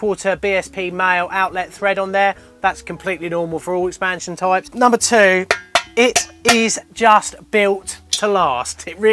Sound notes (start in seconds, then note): 5.4 knocks on metal tank